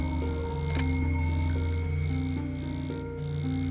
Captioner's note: machine beeps